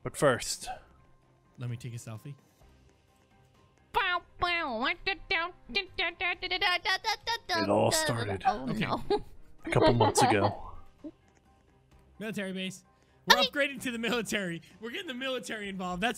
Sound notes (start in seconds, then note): 4.2 humming "Let Me Take A #Selfie"; 9.6 laughing